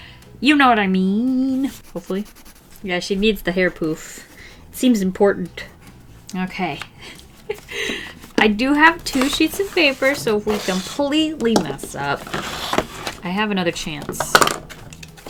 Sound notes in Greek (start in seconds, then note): 7.4 Γέλια